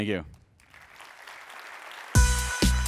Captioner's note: applause